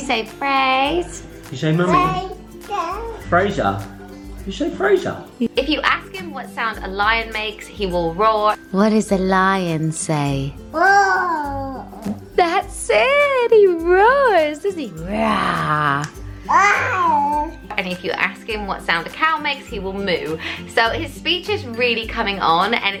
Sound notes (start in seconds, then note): 10.7 baby roars; 16.4 baby roaring